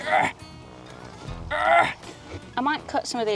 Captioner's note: grunting